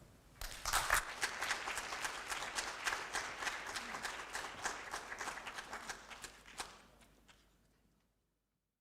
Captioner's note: applause